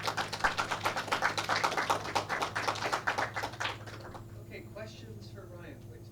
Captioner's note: clapping